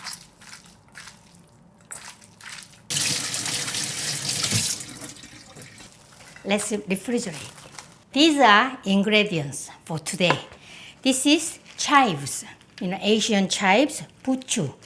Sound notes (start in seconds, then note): 1.9 water running